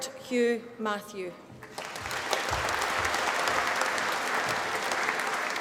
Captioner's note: applause